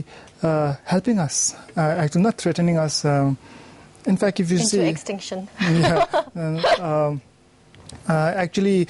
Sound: laughing

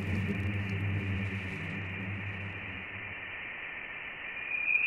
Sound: low frequency humming

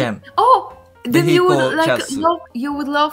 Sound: Polish

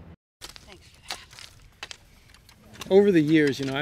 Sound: tools scraping in dirt

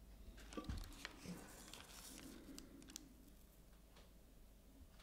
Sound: rustling

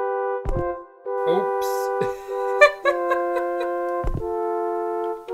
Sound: game music looping; laughs

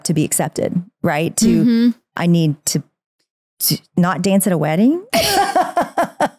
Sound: laughs

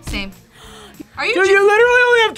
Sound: React gasps

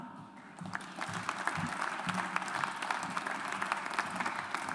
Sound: audience applauds

